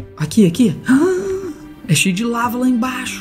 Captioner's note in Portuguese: faz som de surpresa